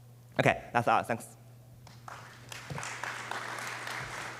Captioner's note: applause